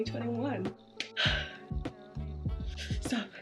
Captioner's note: sigh